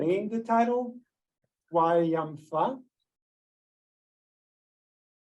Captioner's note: Hebrew